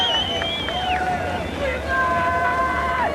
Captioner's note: yelling